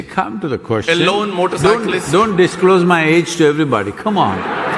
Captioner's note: cheering/Applause